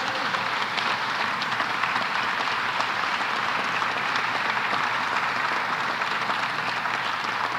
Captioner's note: applause